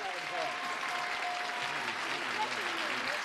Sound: cheers and applause

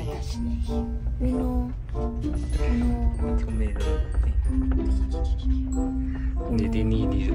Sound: speaking Italian

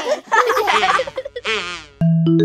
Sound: children laughing

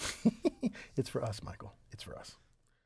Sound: laugh

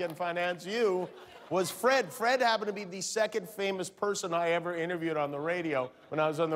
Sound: cheers and applause

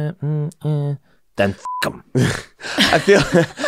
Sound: beep; laughing

